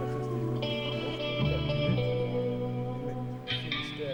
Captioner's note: Marc chattering